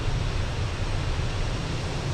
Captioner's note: radio chatter